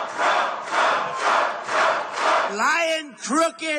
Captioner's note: crowd